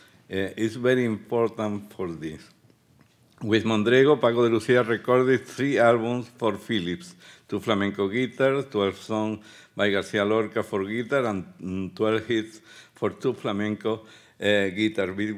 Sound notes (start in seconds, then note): 9.5 speaking Spanish